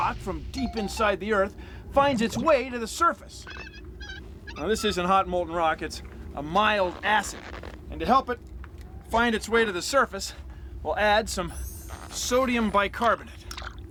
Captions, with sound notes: FROM DEEP INSIDE THE EARTH FINDS ITS WAY TO THE SURFACE. [ SQUEAKING ] NOW, THIS ISN'T HOT, MOLTEN ROCK. IT'S A MILD ACID, AND TO HELP IT FIND ITS WAY TO THE SURFACE, WE'LL ADD SOME SODIUM BICARBONATE.